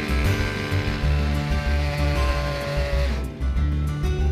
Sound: chainsawing

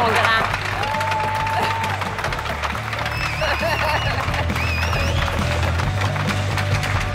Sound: applause, cheering

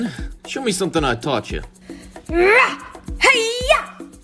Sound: Mowgli roars and shouts

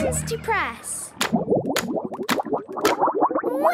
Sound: bubbling

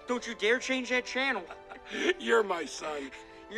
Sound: chuckles

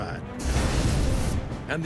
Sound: flamethrower roaring

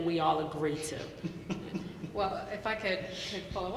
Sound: laughing

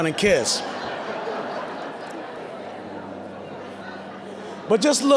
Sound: audience laughing

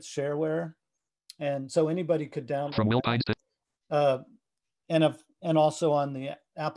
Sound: screen reader reads fast

